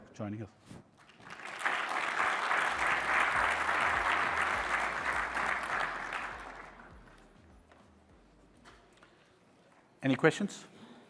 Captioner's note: applause